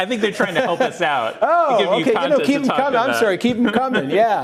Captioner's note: laughter